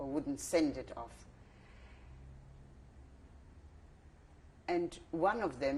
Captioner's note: pauses for 3 seconds